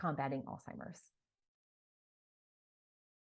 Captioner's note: silence